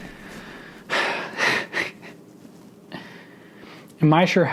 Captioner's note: chuckles